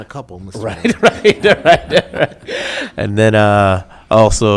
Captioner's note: laughing